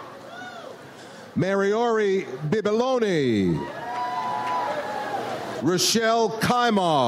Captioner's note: audience cheers